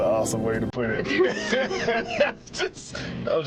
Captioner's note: both laughing